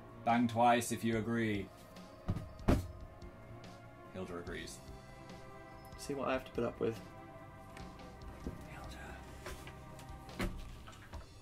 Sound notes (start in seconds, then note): 2.6 bangs on table twice; 8.4 whispers